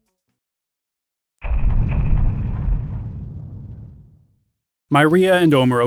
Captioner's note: thumping